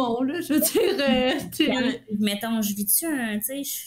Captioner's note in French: rires